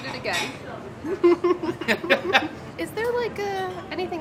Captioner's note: giggling